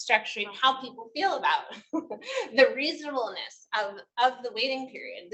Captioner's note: chuckles